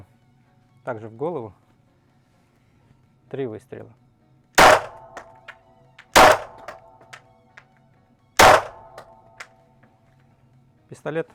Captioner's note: three shots